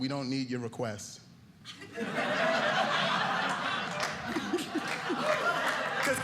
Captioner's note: audience laughing